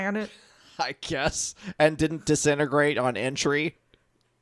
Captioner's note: laughs